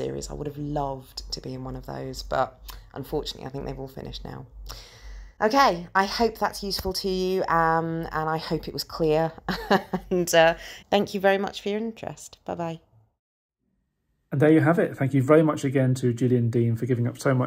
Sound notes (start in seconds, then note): 9.4 laughs